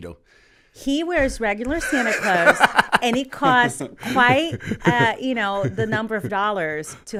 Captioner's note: laughter